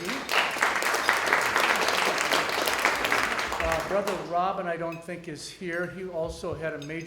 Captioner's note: audience applause